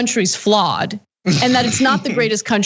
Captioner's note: laugh